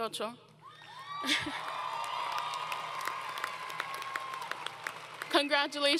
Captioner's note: applause